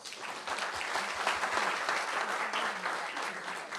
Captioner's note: applause